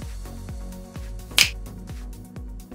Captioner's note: snap